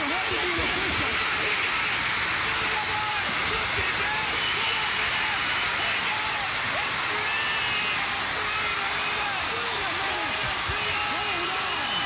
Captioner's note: crowd chatter; crowd cheering